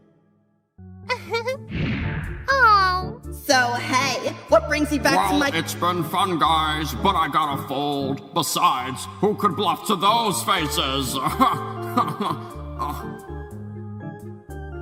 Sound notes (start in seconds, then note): 1.1 laughs; 11.2 laughs